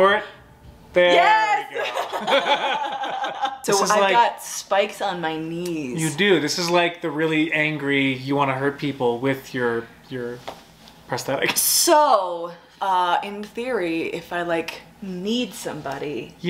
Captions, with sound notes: There we go. - Yes! (both laughs) - So this is like. - I've got spikes on my knees. - You do, this is like the really angry you want to hurt people with your prosthetics. - So in theory, if I like kneed somebody.